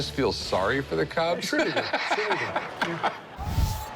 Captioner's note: laughs